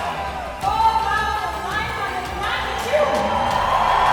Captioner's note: woman speaking foreign language; loud cheering